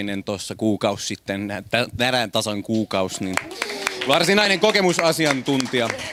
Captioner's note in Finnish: aplodeja